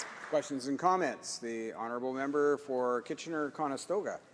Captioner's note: some applause